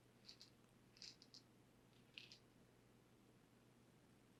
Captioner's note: pill bottle rattling